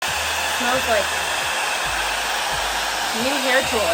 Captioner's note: dryer whirring